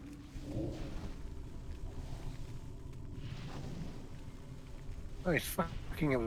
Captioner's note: growling